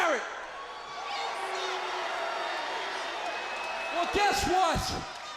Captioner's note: crowd cheering